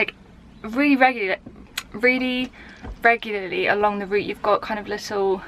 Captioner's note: stumbles over word